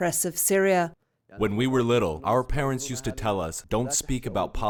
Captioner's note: through translator